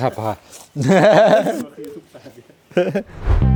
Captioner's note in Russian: смех